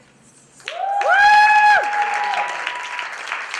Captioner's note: applause